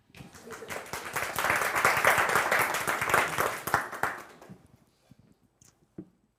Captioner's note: applause